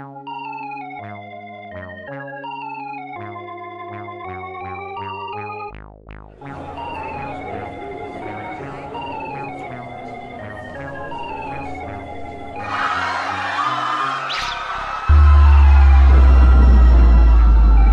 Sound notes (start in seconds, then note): 6.3 crowd chattering; 12.7 crowd screaming; 15.1 thunder